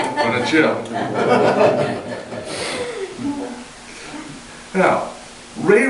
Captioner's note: audience laughter; audience laughter continues